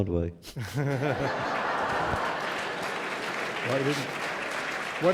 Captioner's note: laughter; applause